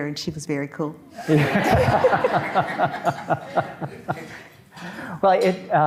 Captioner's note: audience clapping